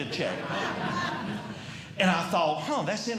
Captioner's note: audience Laughing